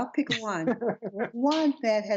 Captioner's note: laughter